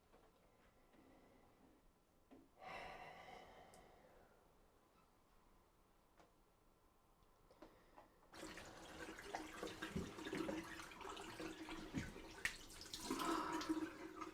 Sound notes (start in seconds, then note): 8.4 water splashing